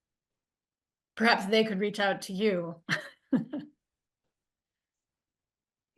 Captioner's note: chuckles